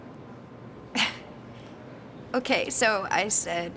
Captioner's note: Mindy chuckles